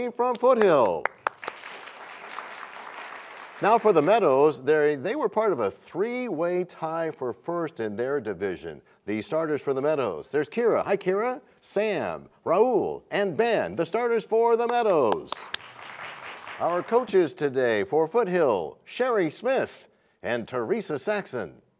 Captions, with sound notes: from Foothill! (applause) Now for the Meadows, they were part of a three-way tie for first in their division. The starters for the Meadows, there's Kyra. Hi, Kyra. Sam, Rahul and Ben. The starters for the Meadows! (applause) Our coaches today for Foothill, Sherry Smith and Teresa Saxon.